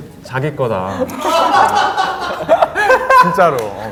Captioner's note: laughing